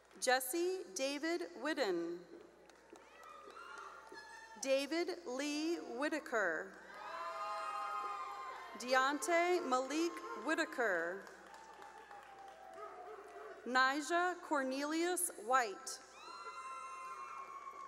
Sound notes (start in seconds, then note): 2.7 cheering and applause; 6.7 cheering; 16.0 cheering